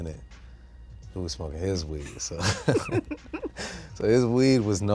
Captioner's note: both laughing